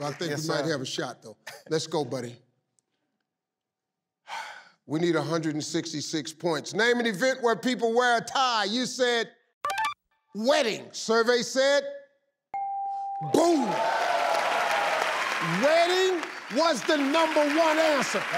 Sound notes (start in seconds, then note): 12.5 bell dings; 13.3 audience applauds